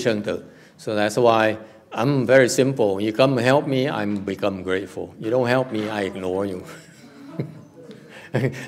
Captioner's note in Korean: 웃음